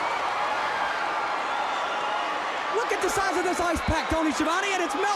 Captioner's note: crowd cheering